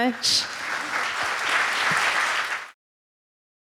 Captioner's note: audience applauding